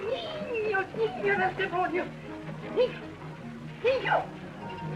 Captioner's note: spanish